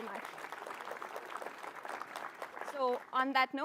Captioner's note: applause